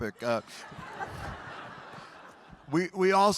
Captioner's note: audience laughing